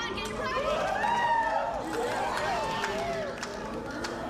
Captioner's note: cheers